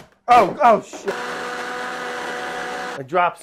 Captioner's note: blender whirring